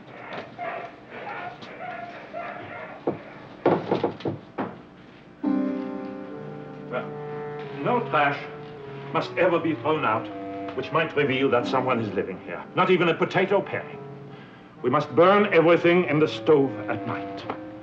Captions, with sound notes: (dog barking) (somber music) Well, no trash must ever be thrown out which might reveal that someone is living here. Not even a potato paring. We must burn everything in the stove at night.